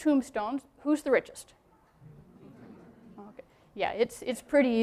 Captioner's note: crowd noise